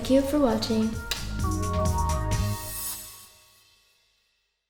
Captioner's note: lips smack